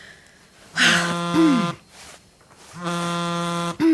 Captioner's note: tablet ringing